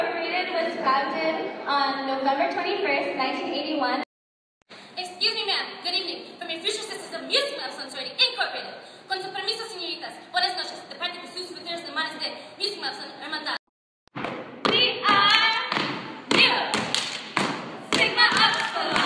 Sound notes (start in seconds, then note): 11.2 speaking spanish; 14.4 chanting